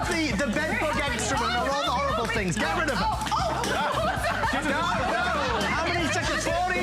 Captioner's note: laughter